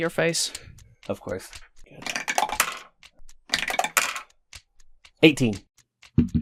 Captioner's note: Dice tower clacks; heavy dice thunks